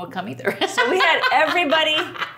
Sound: laughing

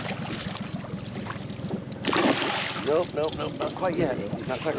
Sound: fish splashing

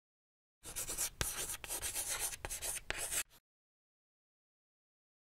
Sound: writing on chalkboard

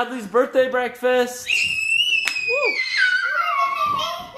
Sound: screams

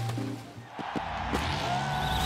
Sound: crowd cheering

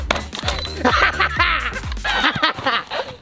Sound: laughing

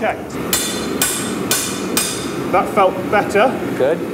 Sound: metal clanging

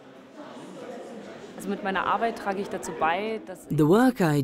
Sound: speaking in foreign language

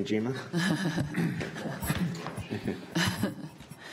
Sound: chuckles

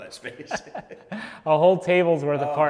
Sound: laughing

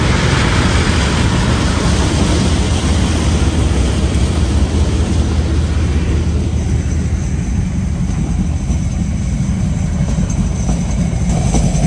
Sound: engine revving; wind blowing

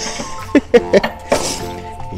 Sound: laughs

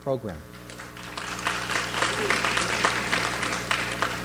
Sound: audience applauds

